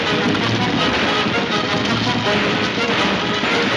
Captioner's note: gunshots banging